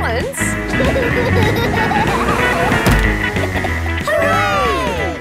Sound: laughing

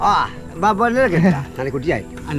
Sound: unknown language

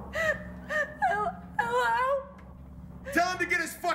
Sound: sobbing

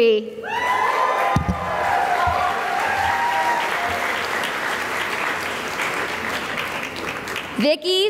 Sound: cheering and applause

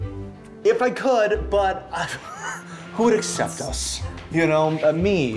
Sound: scoffs

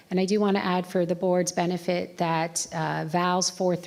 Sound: none

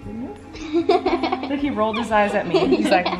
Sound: children giggle

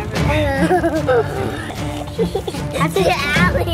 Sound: kids laughing

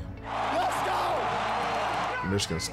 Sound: crowd cheering

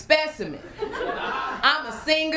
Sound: laughter

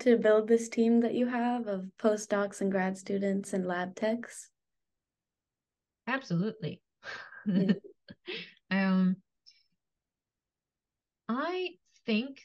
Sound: laughs

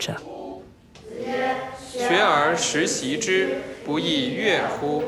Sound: class speaking Chinese

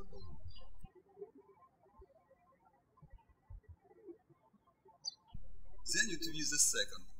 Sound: birds chirping

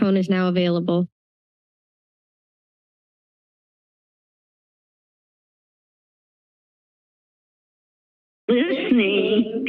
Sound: silence

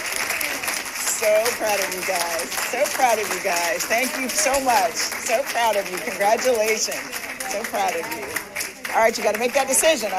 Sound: applause

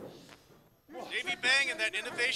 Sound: grunting

